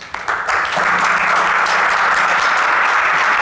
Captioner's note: applause